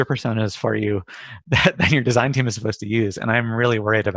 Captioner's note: laughs